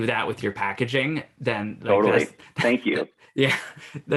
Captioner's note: chuckles